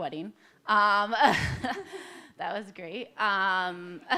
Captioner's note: laughs